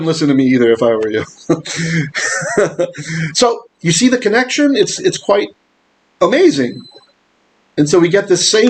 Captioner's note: laughing